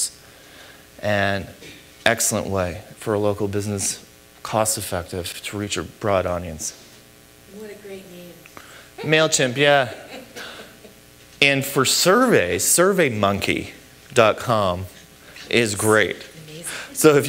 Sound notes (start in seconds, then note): 10.2 chuckle